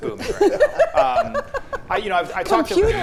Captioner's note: laughing